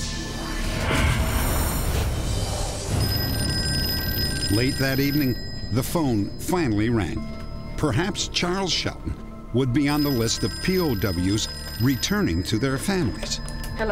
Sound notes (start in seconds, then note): 2.9 phone rings